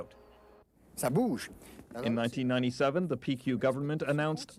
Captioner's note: man speaking French